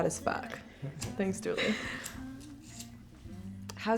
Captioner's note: Pillar laughs